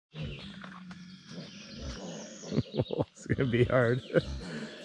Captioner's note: laughing